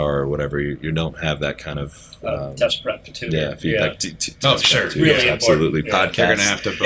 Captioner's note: laughter